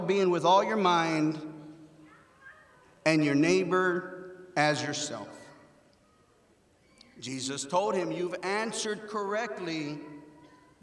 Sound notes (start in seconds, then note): none